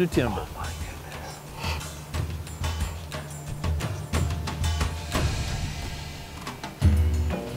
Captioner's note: whispering